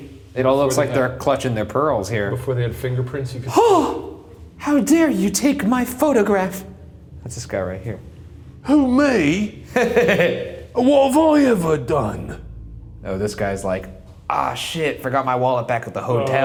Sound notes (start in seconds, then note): 3.4 gasps; 9.6 laughing